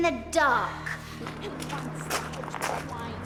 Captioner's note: footsteps